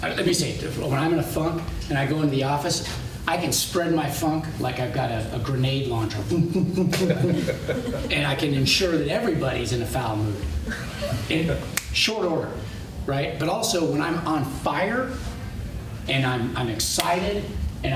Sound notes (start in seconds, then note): 6.3 makes sound effect; 6.4 laughter